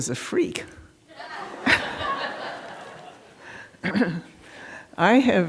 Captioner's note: laughter